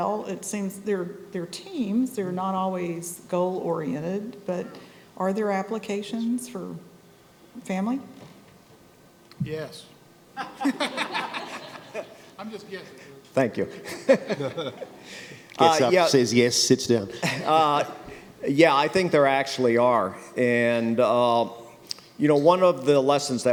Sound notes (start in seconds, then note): 10.4 laughter